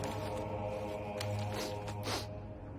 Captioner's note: sniffing